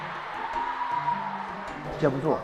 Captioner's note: waves of cheers